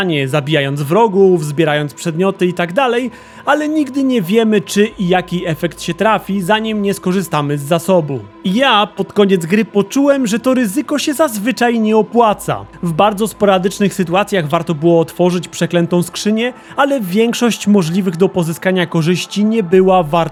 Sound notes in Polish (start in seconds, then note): none